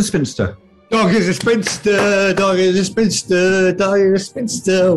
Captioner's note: claps in time